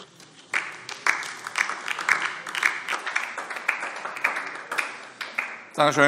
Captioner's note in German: Beifall DIE LINKE